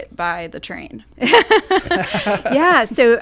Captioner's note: laughing